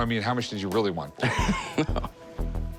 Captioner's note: laughter